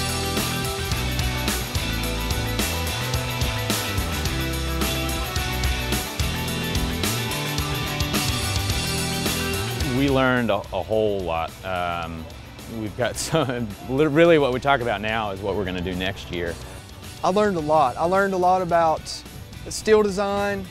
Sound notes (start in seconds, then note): 13.2 laughs